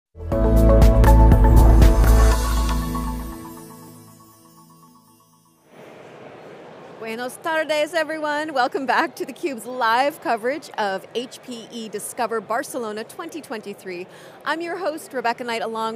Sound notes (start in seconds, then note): 0.2 mellow electro music; 0.3 logo tingles